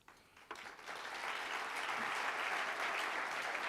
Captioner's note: applauding